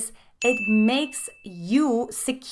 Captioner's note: dinging